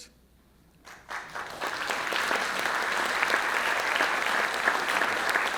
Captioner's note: audience applauds